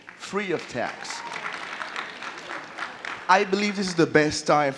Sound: audience clapping

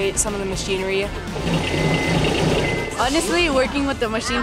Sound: machine rumbles

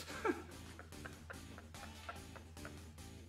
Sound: laughs

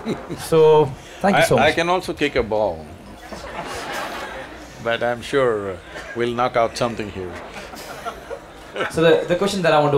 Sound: few laugh

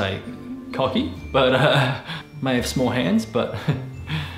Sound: laughs

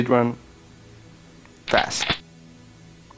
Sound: shick shick

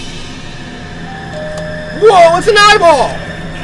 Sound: dinging

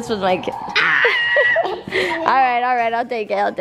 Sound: screams

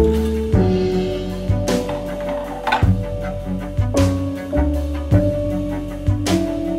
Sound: clunk

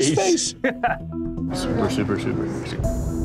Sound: laughs

